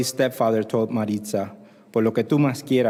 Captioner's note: spanish